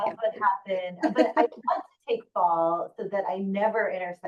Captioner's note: laughing